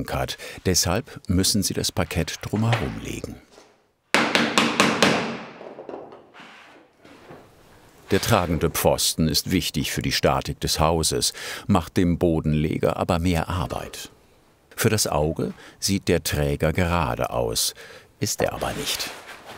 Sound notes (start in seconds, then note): 4.1 knock